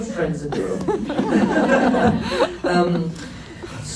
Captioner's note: laughs